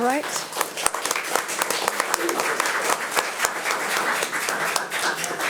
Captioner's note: audience applauding